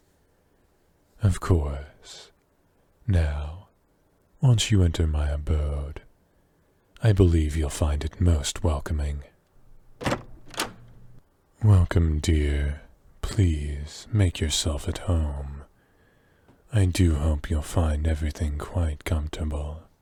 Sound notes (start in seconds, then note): 9.6 door opens